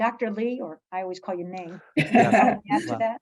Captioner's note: laughs